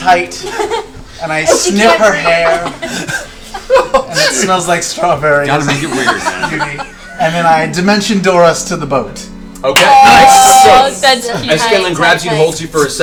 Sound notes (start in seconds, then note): 5.5 laughs